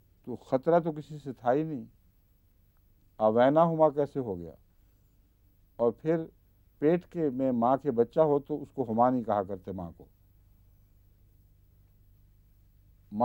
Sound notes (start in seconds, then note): 4.8 Arabic